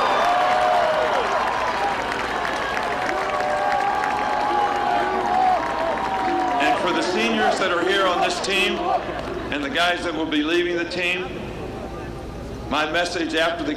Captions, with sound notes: FEELING I HAD -- AND ONE MINUTE LATER THE FEELING THAT I HAD WHEN WE COMPLETED A TOUCHDOWN PASS. [APPLAUSE]